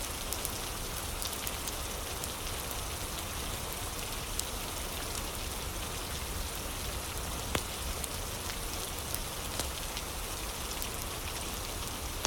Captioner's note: fire crackling